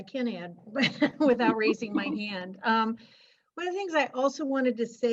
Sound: laughter

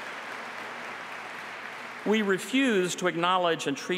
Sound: applause

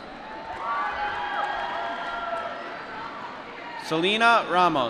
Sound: applause

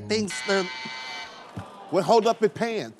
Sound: buzzer

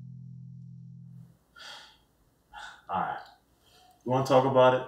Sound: sighs

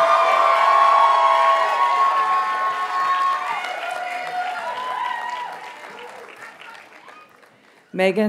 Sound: audience cheers and applauds

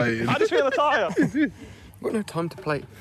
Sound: laughter

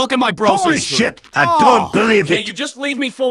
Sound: groan

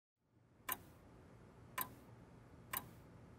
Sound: clock ticking

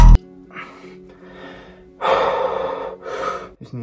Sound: breathing

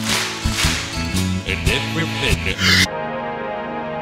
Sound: crowd claps three times in rhythm again; inhales

